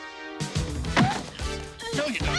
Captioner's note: body thudding; girls squealing